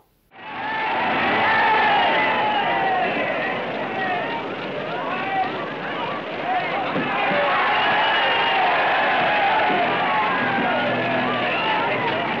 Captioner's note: cheering